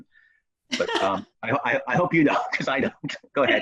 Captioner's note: chuckles